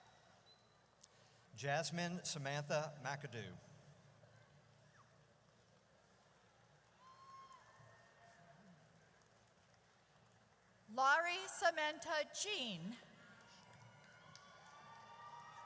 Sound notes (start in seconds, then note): 6.9 audience cheers; 13.5 audience cheers